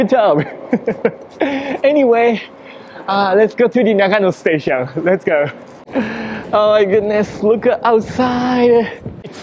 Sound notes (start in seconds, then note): 0.2 chuckles